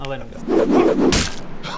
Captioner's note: whiff...thud